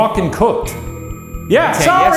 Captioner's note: REM pod screeching